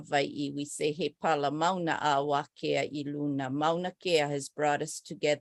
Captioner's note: non-english speech